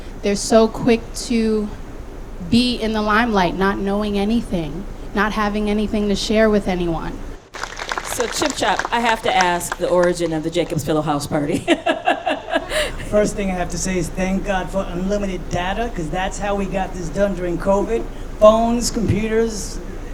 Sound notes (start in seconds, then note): 7.4 audience applauding; 11.8 laughing